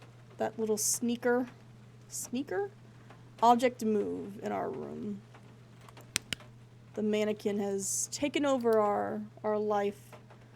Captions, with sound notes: That little sneaker. Sneaker? Object Move in our room. [Flashlight Clicks Off] The mannequin has taken over our life.